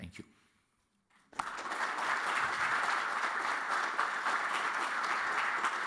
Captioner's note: applause